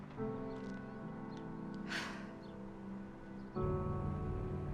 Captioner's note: sighs